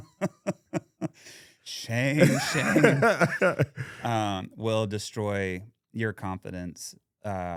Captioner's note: laughing